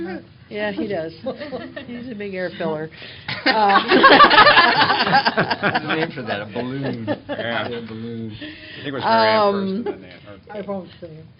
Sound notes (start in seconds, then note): 3.3 laughter; 6.3 indistinct chatter